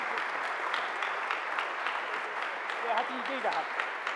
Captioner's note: applause